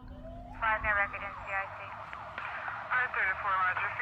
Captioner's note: police radio chatter